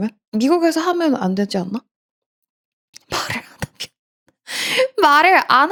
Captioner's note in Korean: 웃음